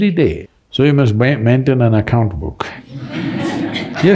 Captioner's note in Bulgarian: Смях